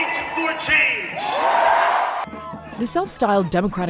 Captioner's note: cheering